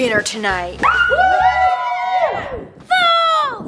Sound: all cheering loudly

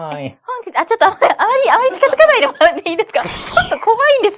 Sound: laughs

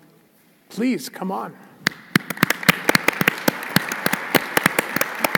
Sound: applause

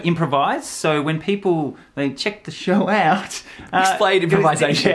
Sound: laughs

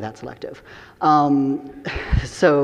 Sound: audience chuckling

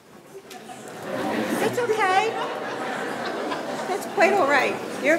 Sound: audience laughing

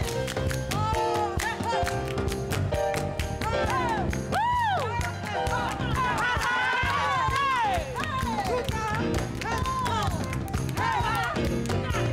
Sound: clapping and cheering

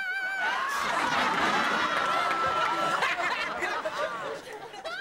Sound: studio audience laughing

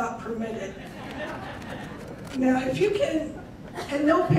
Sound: crowd laughing

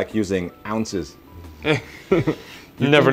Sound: chuckle

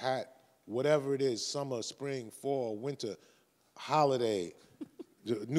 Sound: chuckles

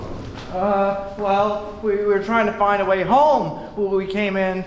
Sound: Wirt stammering

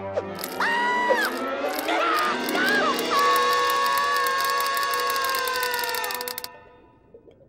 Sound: screaming, clicking

